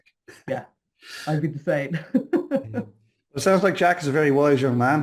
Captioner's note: laughs